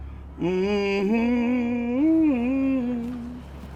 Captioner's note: pastor humming